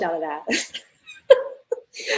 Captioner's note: laughter